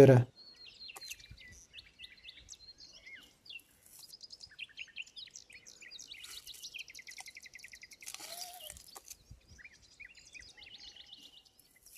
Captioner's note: bird sounds